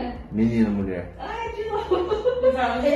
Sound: laughs

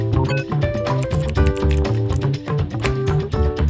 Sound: keyboard Typing

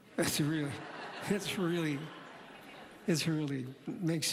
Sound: laughter

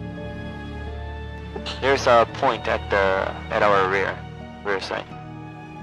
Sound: on the radio

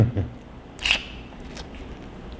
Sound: chew

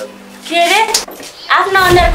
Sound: slaps

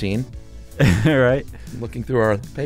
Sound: chuckles

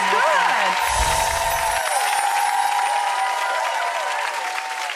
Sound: audience applauding

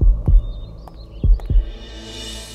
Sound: footsteps approaching; birds chirping

